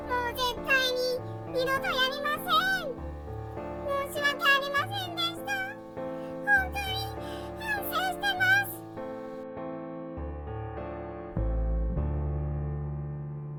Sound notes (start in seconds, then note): 6.2 sobs